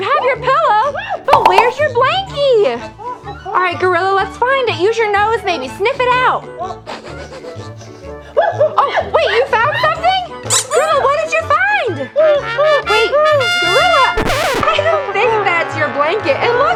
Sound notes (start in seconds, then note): 6.9 gorilla sniffing; 8.7 exciting gorilla sounds; 12.5 trumpet horns; 14.2 record skips; 14.3 tuba blows